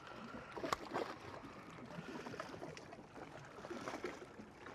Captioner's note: water lapping